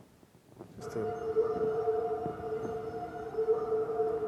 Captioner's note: distorted wolf calls